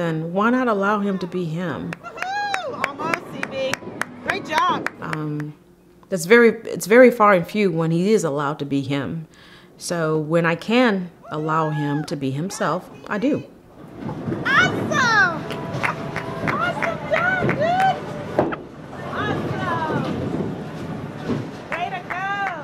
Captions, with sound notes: why not allow him to be him? It’s very far and few when he is allowed to be him, so when I can allow him to be himself, I do. [Cheering]